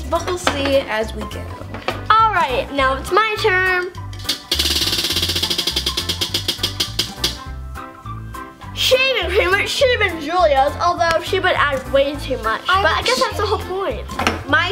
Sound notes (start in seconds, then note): 4.0 lively music; 4.2 wheel spinning